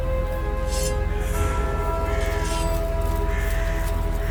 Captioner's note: blade rings